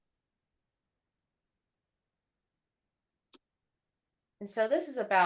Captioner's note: silence